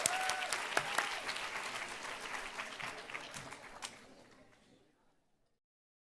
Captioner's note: applause